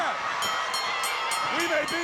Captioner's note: bell ringing